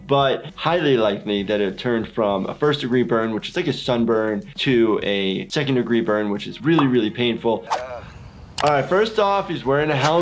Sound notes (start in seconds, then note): 7.7 Steve-O grunts